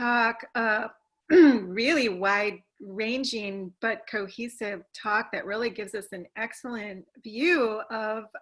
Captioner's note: cough